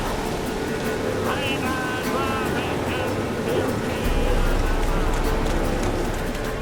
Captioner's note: shouts incantation; shouts incantation